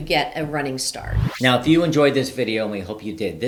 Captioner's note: slide whooshing